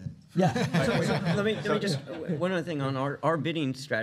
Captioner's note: laughter